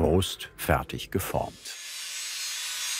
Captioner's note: whirring